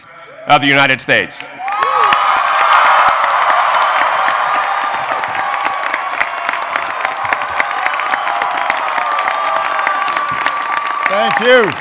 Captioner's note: applause